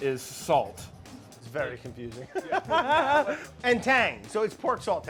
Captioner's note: laughing